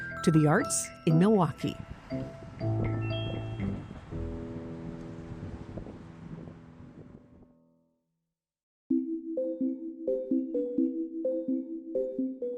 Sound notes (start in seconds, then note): 1.7 wind howling; 2.6 gentle bright music fades; 8.9 upbeat bright music